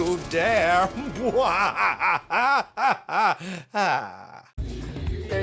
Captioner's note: cackles, sighs